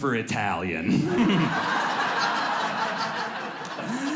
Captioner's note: audience laughs